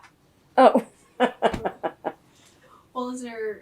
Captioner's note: laughs